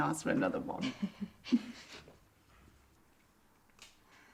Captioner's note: Tilly chuckling